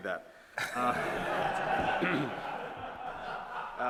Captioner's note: audience laughing